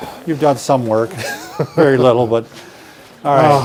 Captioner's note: giggling